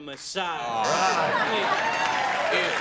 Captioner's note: cheering and applause; buzzer